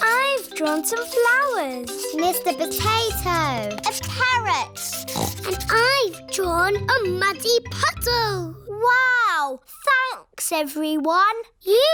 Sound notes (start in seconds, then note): 4.8 snorts